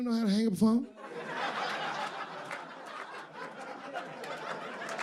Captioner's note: audience laughing